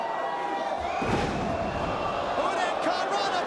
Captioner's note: crowd cheering; crowd groaning; mat thumping